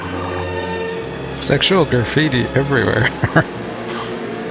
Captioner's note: chuckling